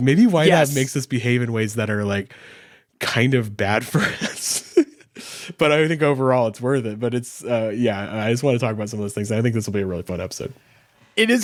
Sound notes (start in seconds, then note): 3.9 laughs